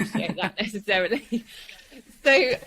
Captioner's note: chuckles